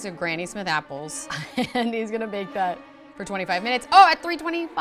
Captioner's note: laughs